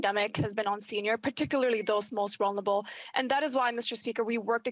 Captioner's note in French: voix de l'interprète